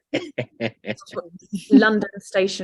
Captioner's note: laughs